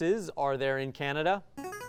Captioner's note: ring-in sound